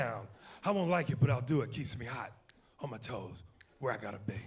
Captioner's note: snapping fingers